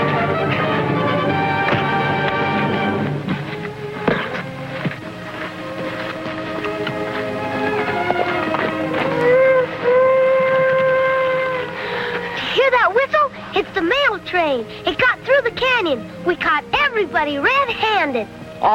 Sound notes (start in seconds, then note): 1.9 fist pounding; 5.6 pensive music; 8.7 horse cantering; 10.3 train whistle blowing